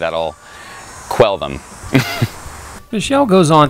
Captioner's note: laughs